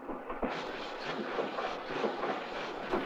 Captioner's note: train chugging